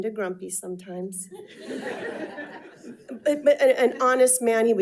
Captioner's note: attendees laughing